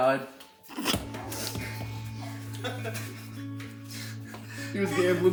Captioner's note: sobbing